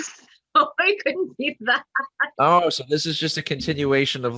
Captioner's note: laughs